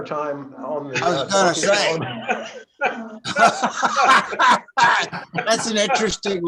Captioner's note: laughter